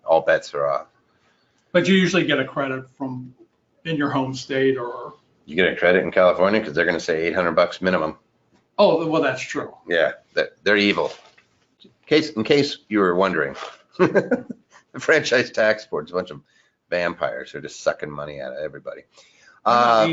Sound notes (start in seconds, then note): 14.0 laughs